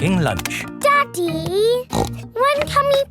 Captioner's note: snorts